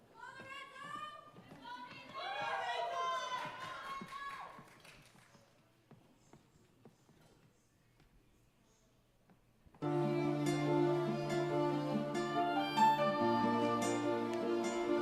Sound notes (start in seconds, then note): 2.1 audience shouting and cheering